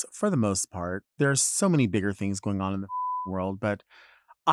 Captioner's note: beep